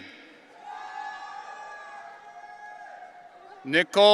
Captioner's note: audience cheering